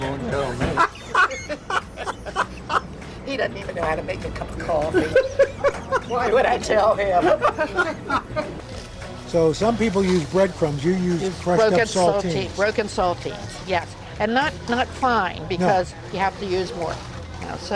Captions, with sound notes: (laughs) - He doesn't even know how to make a cup of coffee. Why would I tell him? So, some people use breadcrumbs. You use broken saltines. - Broken saltines. Yes. And not fine, because you have to use more.